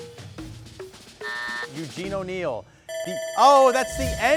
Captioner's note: buzzer rings